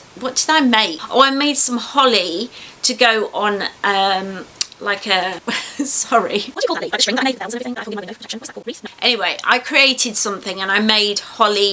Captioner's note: sound of sped up talking